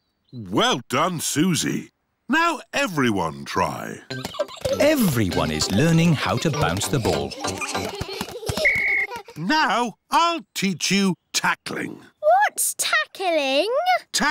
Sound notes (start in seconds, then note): 8.6 blows whistle